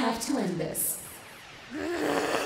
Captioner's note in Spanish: Gruñidos